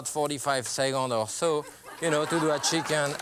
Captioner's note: laughter